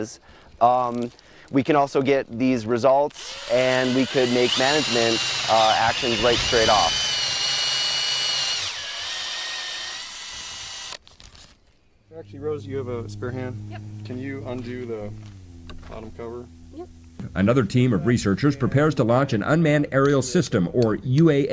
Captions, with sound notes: We can also get these results and we could make management actions right straight off. [drill noise]. Another team of researchers prepares to launch an unmanned aerial system or UAS